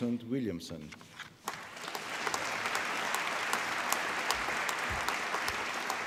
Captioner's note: applause